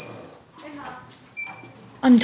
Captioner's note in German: Räderquietschen